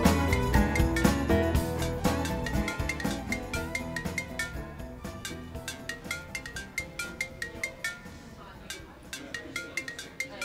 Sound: sound of ring signal

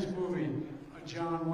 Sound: crowd noise

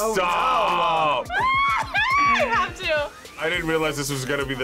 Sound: screams

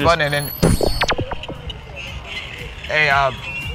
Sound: neuralyzer zaps

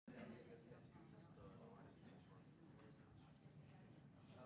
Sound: people chattering

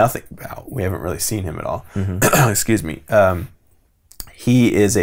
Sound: clears throat

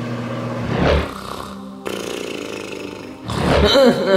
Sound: microwave whirring; Yoshi snoring; Yoshi grunting

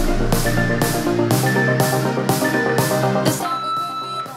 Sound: alarm beeping

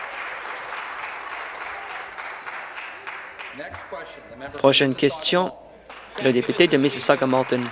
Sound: applause

